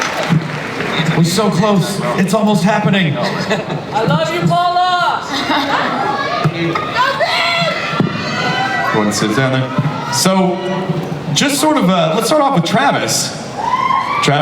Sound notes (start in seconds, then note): 4.1 voiceover; 5.2 Paula laughs